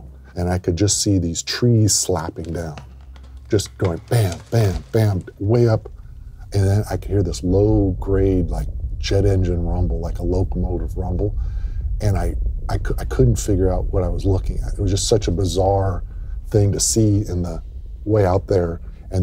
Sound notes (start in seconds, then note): 2.4 bam, bam, bam